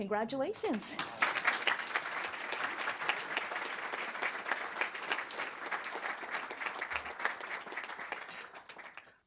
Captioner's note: applause